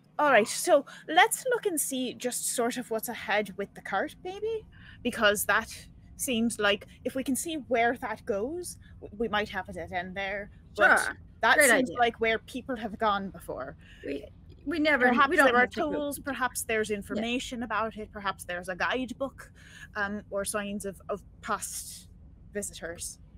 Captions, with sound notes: - "All right, so, let's look and see, just sort of what's ahead with the cart maybe, because that seems like if we can see where that goes, we might have it end there, - "Sure, great idea." but that seems like where people have gone before. (group chattering) Perhaps there's information about it, perhaps there's a guide book, or signs of past visitors."